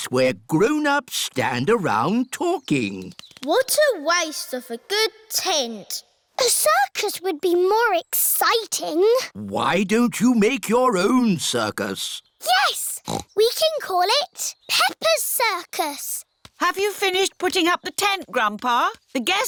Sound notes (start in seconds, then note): 12.9 snorts